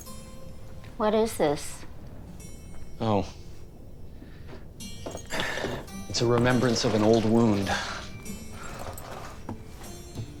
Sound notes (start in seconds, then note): 7.1 birds chirping; 7.1 calm music playing